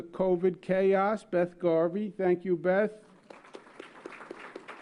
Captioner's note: applause